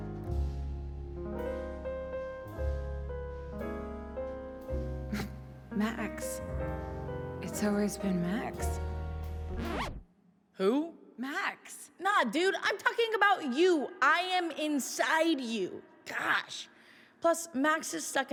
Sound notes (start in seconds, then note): none